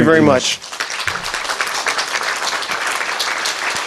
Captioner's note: applause